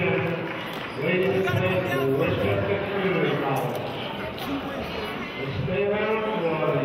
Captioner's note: murmurs